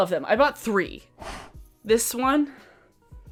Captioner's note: exhales deeply